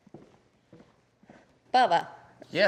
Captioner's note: footsteps